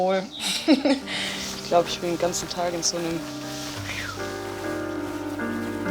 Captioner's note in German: pfeift